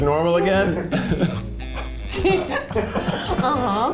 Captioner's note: laughing